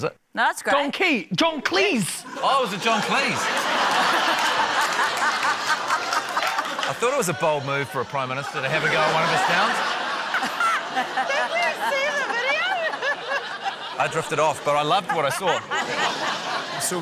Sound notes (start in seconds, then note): 4.4 laughter; 10.5 laughs; 16.2 laughter